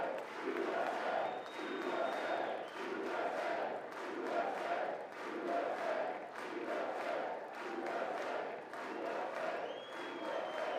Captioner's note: audience chants "USA"